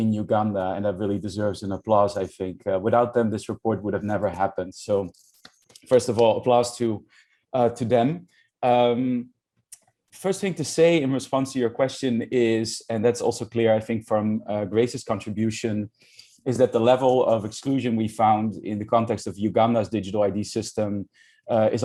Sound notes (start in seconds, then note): 5.7 claps hands